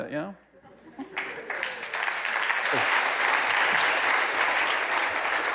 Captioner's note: audience clapping